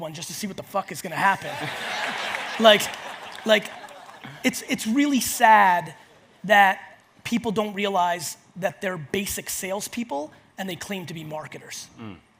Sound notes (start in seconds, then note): 1.3 audience laughs